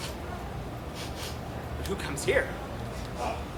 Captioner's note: sniffs